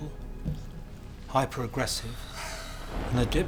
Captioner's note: creature hissing